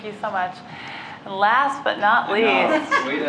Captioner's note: laughter